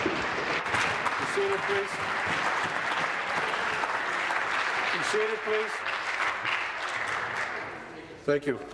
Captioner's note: applause